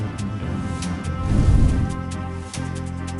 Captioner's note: none